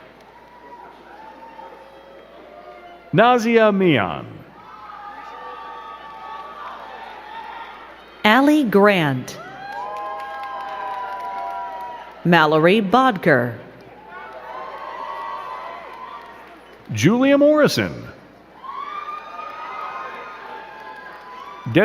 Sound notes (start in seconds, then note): 0.0 crowd cheering; 4.5 crowd cheering and clapping; 9.3 crowd cheering and clapping; 15.5 crowd cheering and clapping; 18.3 crowd cheering